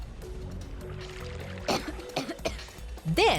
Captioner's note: coughing